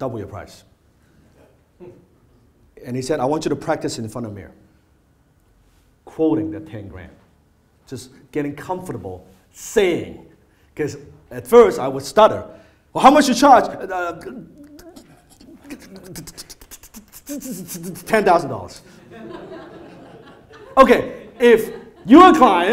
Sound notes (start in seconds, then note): 15.5 stuttering; 18.9 audience laughter